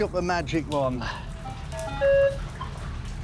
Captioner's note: machine beeps